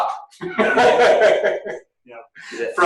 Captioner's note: laughing